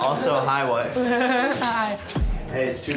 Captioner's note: giggles